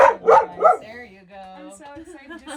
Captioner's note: Camper barks